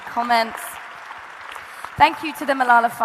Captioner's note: audience applauding